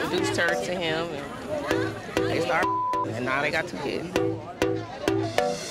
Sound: beep

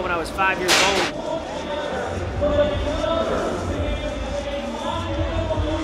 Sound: announcer speaking

